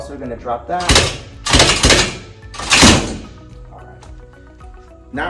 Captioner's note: machinery clanking